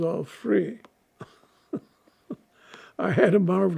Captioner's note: laughing